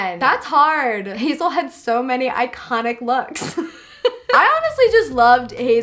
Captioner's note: laughs